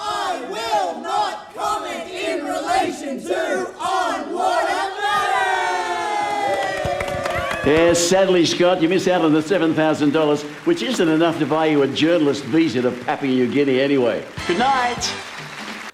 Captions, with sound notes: I will not comment in relation to on-water matters. (audience applauding) Yeah, sadly, Scott, you missed out on the $7,000, which isn't enough to buy you a journalist visa to Papua New Guinea anyway. Goodnight.